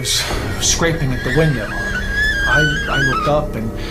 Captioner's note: glass screeching